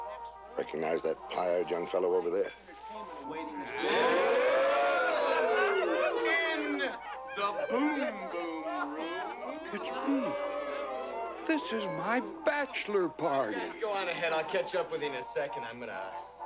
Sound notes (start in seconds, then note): 8.8 exclamations, laughter